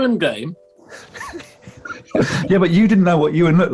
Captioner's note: sniggering